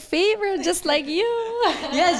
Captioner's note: rires